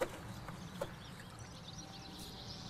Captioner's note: birds chirping